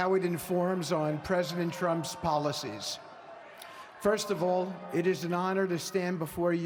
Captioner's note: cheers